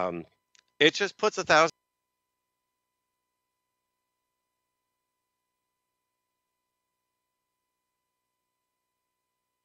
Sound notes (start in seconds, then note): 2.9 static interference